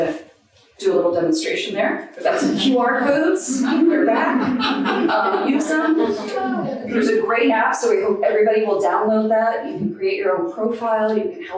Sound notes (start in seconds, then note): 2.2 audience laughing